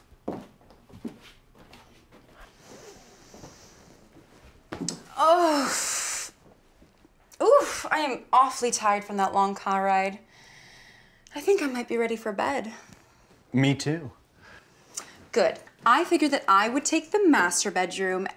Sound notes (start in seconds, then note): 0.0 footsteps; 4.7 stretches and groans